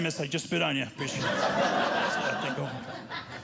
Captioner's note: audience laughing